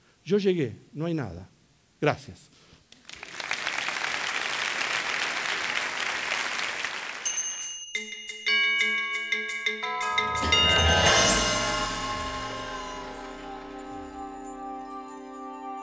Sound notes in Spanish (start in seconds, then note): 2.9 Aplausos